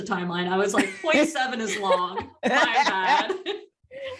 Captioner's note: laughter